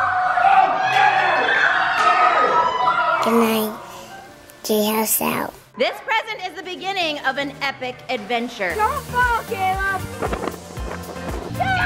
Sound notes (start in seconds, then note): 0.2 shouting; 3.9 voiceover; 8.2 upbeat music